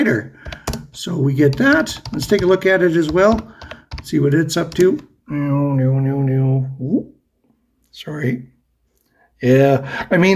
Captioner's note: scroll noises